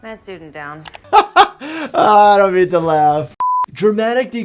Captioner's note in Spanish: risas